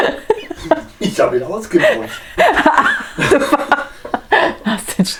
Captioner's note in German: Aus dem Off; lacht